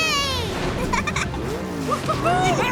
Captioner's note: giggling